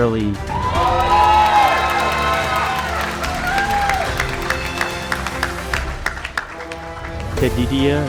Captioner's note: cheering